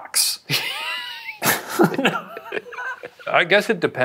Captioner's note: laughs